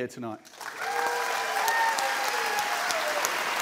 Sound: cheers and applause

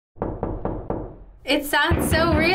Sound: knocking

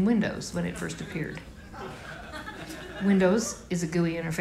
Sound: laughter

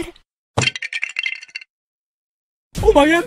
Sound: lego bricks breaking

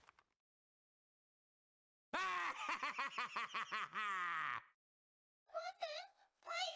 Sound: laughs

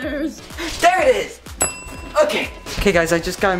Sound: ding

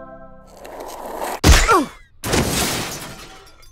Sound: crash

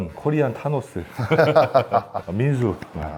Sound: laughter

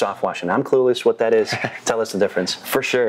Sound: laughs

